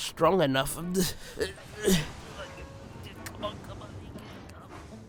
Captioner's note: gilbert grunts